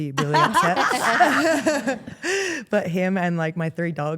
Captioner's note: Steph and Elyse laugh